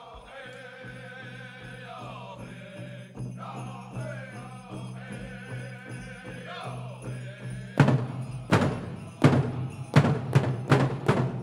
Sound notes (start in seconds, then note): 1.7 drum beating gently; 2.5 regalia ornaments jingling; 7.7 drum beating intensely